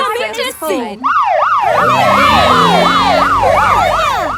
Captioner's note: siren